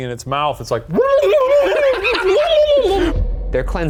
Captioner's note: imitates spluttering